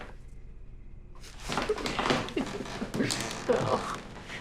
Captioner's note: Teresa laughs